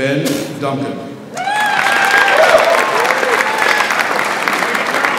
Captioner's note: audience applauds